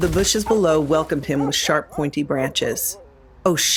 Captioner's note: barking